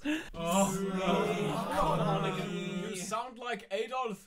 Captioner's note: indistinct chatter